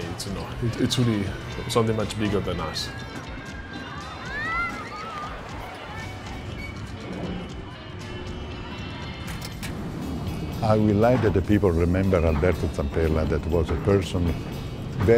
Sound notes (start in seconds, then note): 3.0 children screaming; 9.1 roller coaster whirring